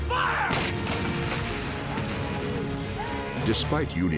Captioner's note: shouting